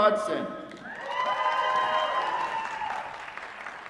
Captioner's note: applause